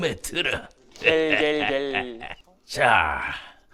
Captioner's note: laughing